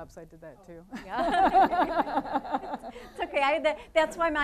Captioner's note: all laughing